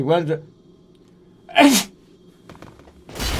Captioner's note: sneeze